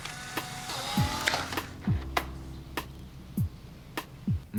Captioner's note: gears whirring